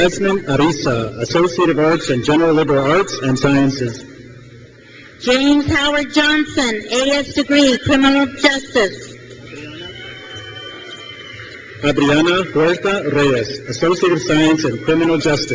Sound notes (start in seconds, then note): 8.8 crowd cheers